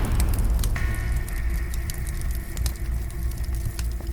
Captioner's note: fire crackling